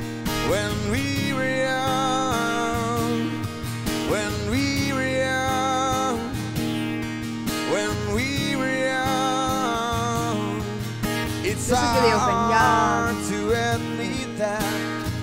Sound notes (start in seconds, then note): 10.9 speaking faintly off mic